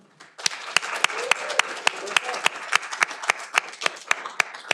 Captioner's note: audience applauding